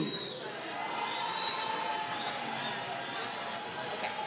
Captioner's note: applause